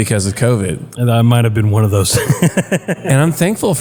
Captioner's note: laugh